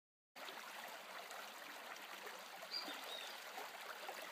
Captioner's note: brook babbles gently